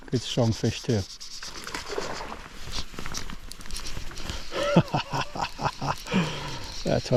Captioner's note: laughter